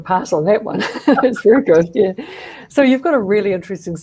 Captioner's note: laughter